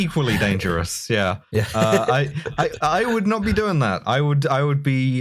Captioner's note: laughter